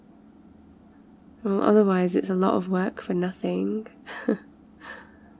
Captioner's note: laughs